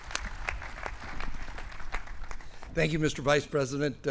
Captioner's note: applause